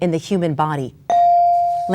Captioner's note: bell dings